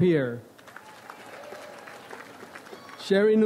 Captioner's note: audience applauds